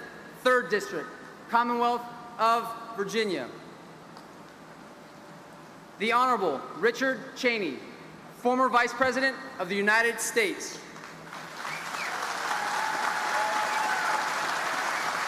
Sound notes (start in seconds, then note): 11.0 audience applauding